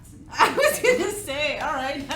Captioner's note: laughs